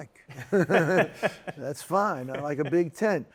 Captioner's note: laughs